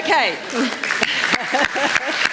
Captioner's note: laughter